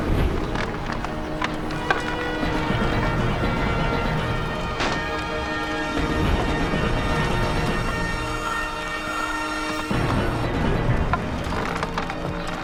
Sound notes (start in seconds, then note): 1.7 wood creaking